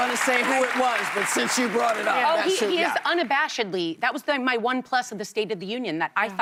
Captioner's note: applause